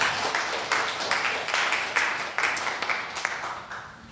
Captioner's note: audience applauding